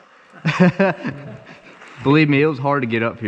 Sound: laughing

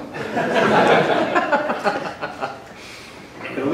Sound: laughter

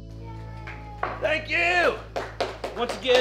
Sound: sparse applause and cheers

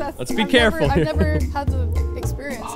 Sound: laughing

